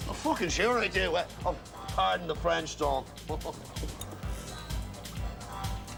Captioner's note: Risas